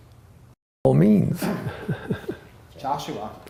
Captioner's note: laughter